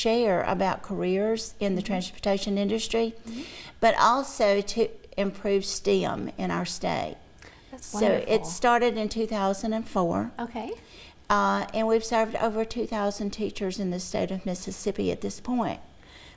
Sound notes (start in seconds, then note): 8.0 laughs